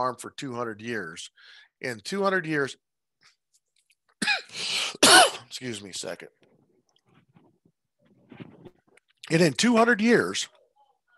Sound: cough

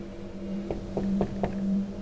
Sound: knocking

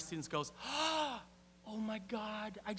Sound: <i>Mimics a gasp</i>

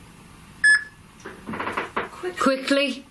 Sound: loud beeping

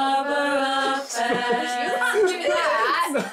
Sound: laughs

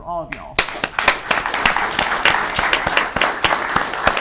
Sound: audience clapping

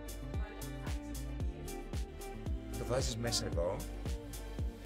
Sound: none

